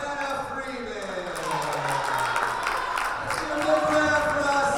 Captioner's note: cheering and applause